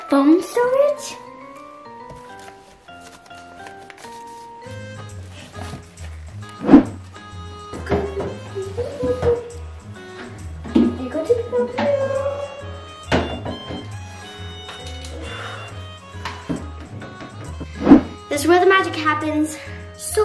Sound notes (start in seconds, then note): 2.5 soft music; 8.3 humming; 13.2 soft music